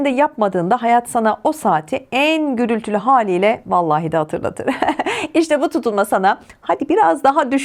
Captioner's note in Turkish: kahkaha